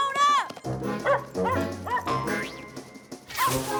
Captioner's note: barking